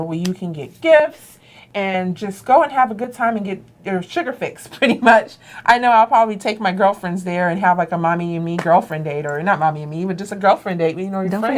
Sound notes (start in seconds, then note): 4.6 laughing